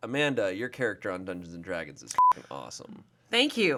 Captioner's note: beep